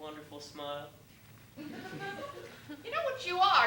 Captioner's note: laughter